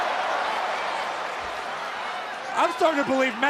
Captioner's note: crowd cheering